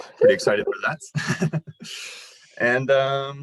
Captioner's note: chuckles